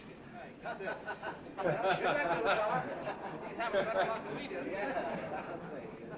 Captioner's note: jokes and laughter